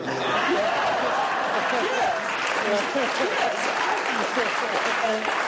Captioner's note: laughing and applause